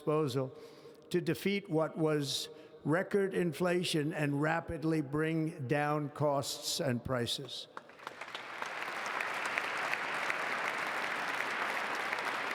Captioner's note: applause